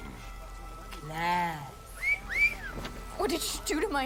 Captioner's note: wolf whistle